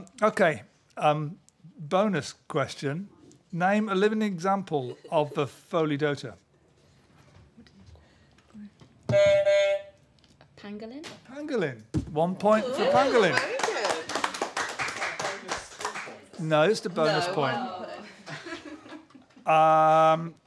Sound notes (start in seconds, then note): 9.1 honk; 13.1 applause